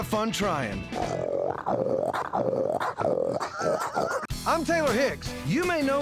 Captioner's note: imitates a hog grunting